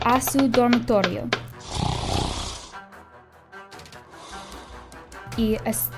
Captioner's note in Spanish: Ronquido